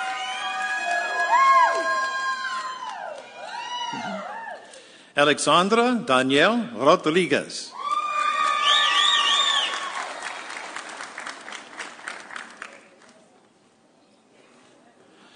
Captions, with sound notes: Alexandra Danielle Rodriguez. (audience cheering)